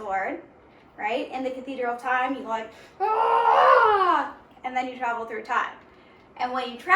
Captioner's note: yelling